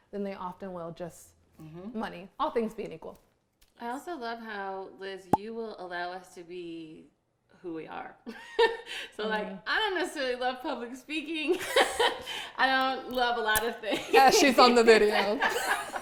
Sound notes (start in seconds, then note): 11.5 laughing; 15.8 all laughing